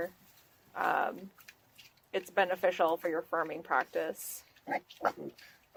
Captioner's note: pig oinks